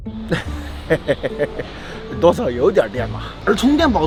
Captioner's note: laughter